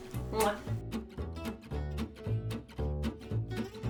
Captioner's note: kissing smack